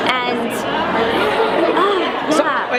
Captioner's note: groaning